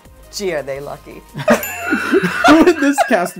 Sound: laughter

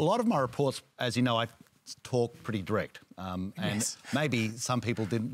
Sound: chuckles

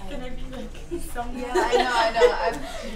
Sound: laughter

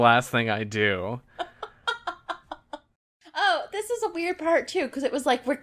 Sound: laughs

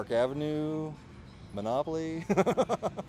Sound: laughs

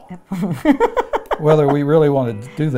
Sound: laughing

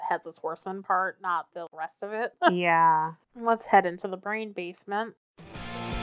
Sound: laughs; transition music plays

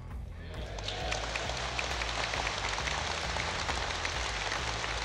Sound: audience applauding

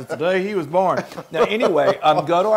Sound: laugh

